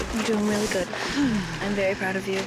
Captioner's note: sigh